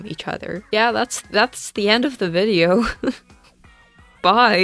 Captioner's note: laughs